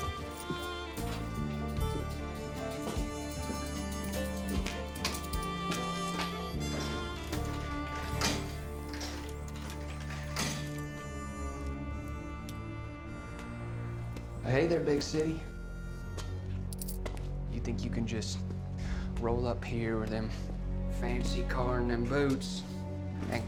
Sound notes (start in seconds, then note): 7.0 sliding coins in machine